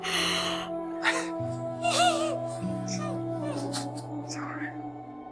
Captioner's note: Moira starts crying